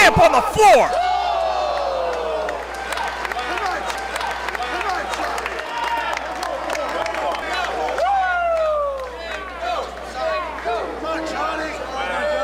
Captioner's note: applause